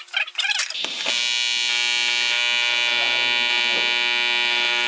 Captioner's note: welder buzzing